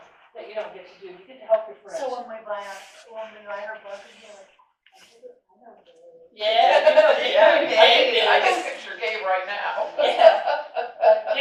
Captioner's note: audience comment and laughter